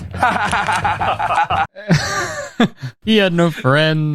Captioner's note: laughs